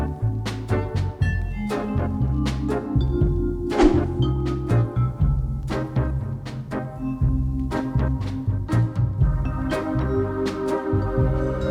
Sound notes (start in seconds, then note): none